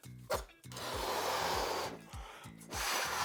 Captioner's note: air blows